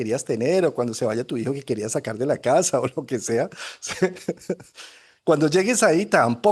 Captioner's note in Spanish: risas